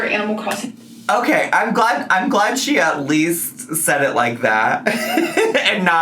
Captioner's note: laughs